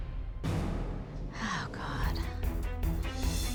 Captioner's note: sighing